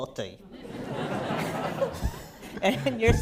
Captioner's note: laughter